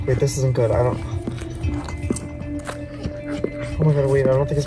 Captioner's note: sound Of Dog Licking